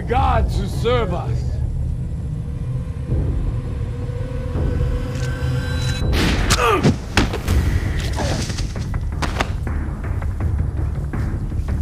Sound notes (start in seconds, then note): 2.9 suspenseful music; 6.8 thudding; 6.9 gun banging; 6.9 man grunting; 8.8 dramatic music